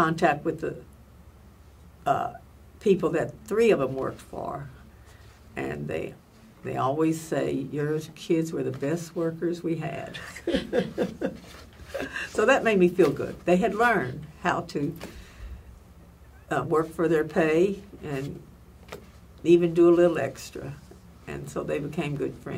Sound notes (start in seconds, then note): 10.2 laughs